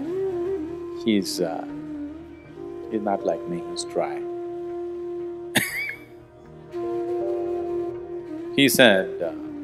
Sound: laughs

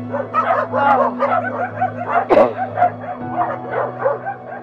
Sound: coughs

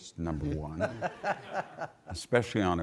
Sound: audience laughing

